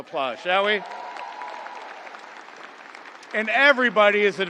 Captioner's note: audience applauding